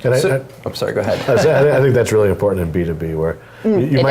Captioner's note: laughs